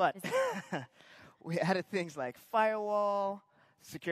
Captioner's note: laughing